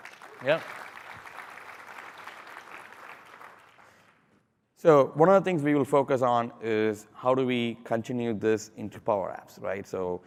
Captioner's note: applause